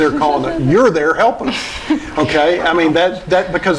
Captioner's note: laughing